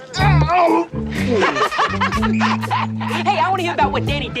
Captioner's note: laughter